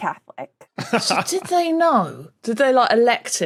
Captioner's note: laughs